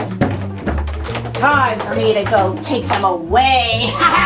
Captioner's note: laughs